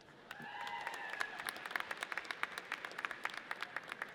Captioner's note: audience cheers